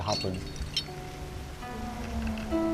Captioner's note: climbing gear jangles